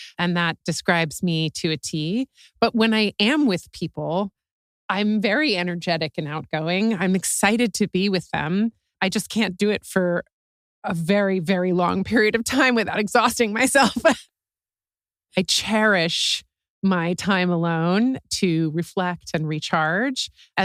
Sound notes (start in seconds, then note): 14.0 laugh